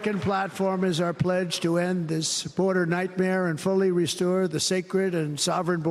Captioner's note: cheers and applause